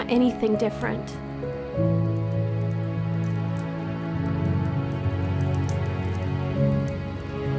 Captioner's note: inspirational music; fire crackling